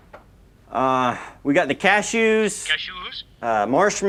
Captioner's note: phone